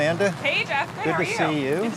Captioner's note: rain falling